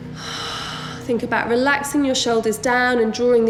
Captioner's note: heavy breathing